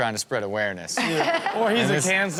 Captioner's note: Chanel laughing